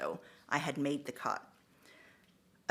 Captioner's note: none